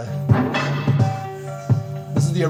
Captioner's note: piano melody rings out; metal bars clanging